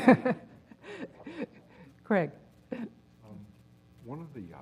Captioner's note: laugh